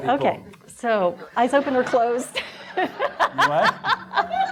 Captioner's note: laughing